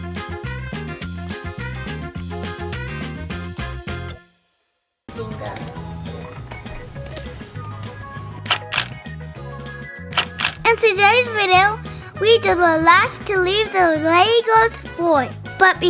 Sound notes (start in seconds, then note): 0.1 upbeat carnival music; 8.4 clicking sound effects